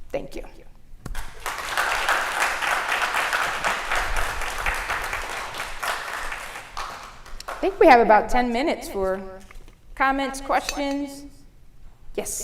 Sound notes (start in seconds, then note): 1.1 audience applause